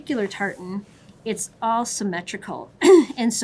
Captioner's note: clearing throat